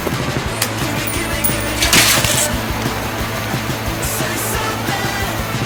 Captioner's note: coin clinking